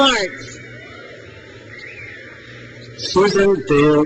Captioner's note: crowd cheers